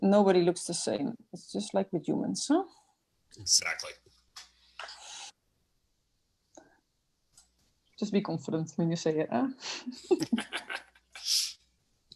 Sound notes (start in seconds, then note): 10.0 laughs